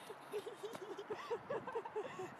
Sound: laughing

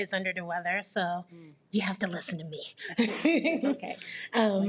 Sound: chuckles

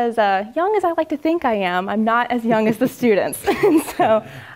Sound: laugh

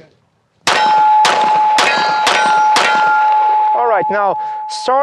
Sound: five successive gunshots

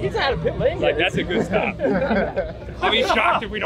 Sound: men laughing

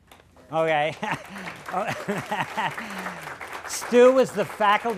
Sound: applause

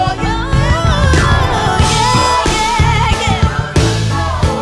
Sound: vocalizinng

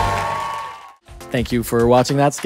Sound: audience applause and cheering

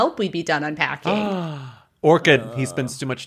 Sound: gasps

